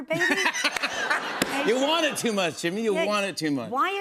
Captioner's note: laughter